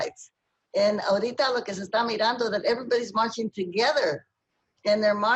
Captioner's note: speaking spanish